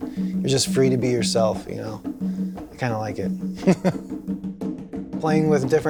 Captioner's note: laughs